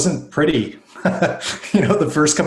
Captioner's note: laughing